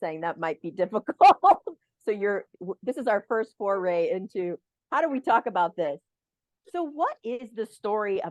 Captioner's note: laughter